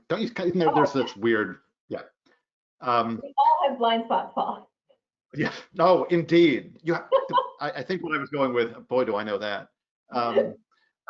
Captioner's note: laughs